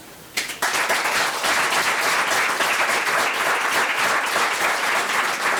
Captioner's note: members applauding